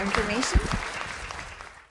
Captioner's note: audience applauds